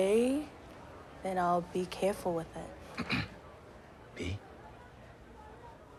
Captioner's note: clears throat